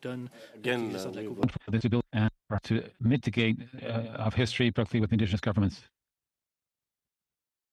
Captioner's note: speaking French